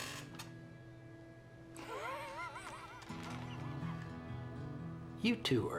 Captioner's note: laughing